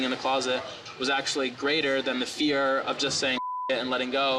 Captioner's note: beep